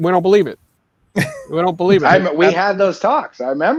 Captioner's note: chuckles